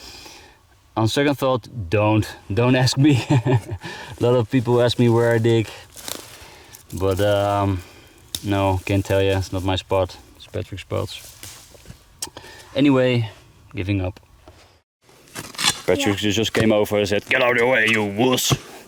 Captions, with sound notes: On second thought don't, don't ask me (laughs). A lot of people ask me where I dig but no, can't tell you. It's not my spot, it's Patrick's spot. Anyway, giving up. Patrick just came over and said, get out of the way you wuss!